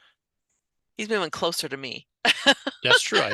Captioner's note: laughs